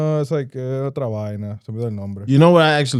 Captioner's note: speaking In Foreign Language